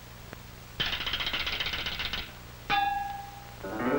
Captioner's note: cymbals crashing; ticking